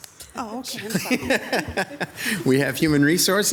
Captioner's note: chuckles